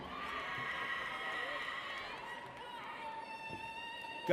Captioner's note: audience cheers